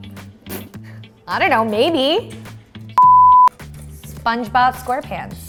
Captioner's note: beep